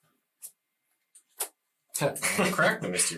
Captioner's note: all laugh